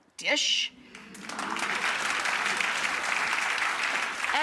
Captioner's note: applause